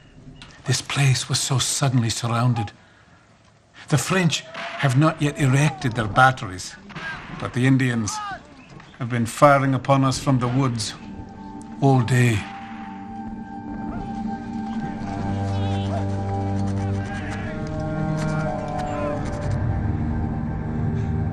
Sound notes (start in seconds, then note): 12.3 guns banging; 14.8 gentle music; 16.9 soldiers shouting